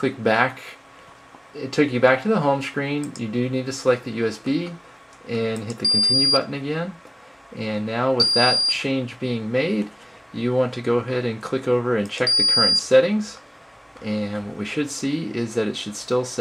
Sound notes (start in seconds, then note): 5.8 beep; 8.2 beep; 12.2 beep